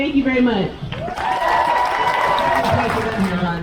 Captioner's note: crowd cheers